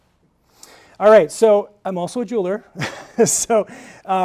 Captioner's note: laughs